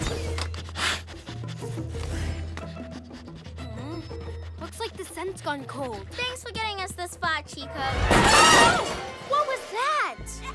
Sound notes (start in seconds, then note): 0.5 sniffing